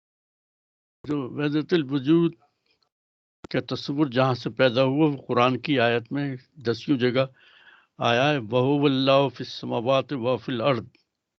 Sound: recites arabic

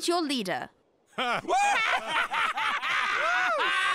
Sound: laughter

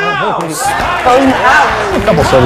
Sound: audience chanting

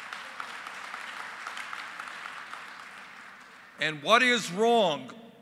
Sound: applause

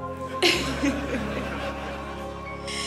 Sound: laughter

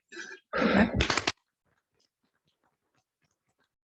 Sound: applause

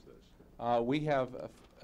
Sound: man talking

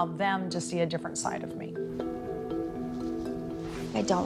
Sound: bowl bongs

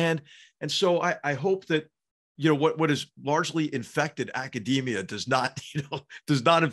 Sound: laugh

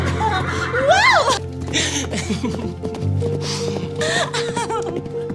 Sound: both giggling; horses trotting

